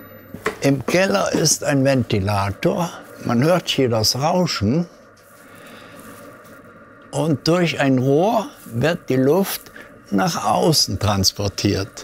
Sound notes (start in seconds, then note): 5.0 quiet whirring